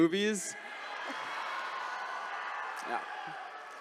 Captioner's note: attendees cheering